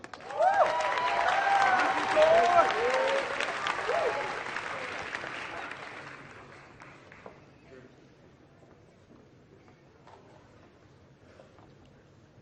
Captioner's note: applause